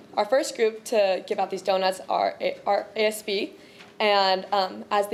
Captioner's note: none